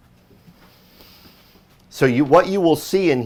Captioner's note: inhales